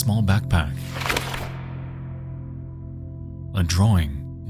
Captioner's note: drawing rustles